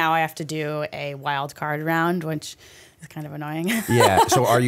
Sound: chuckle

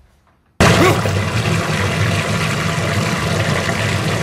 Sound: water splashing

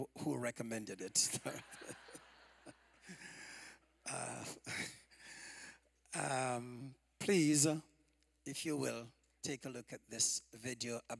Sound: laughter

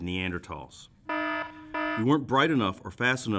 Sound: warning alarm sounds

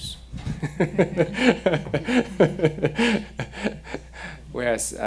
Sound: laughing

